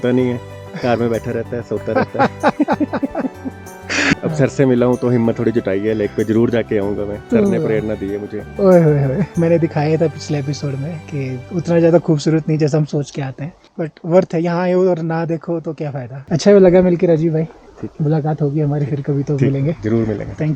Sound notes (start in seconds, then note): 1.8 both laugh